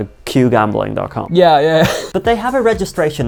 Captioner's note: laughing